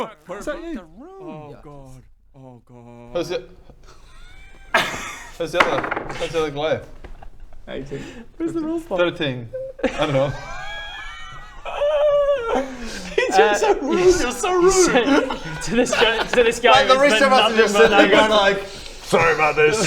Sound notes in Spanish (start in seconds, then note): 11.3 risas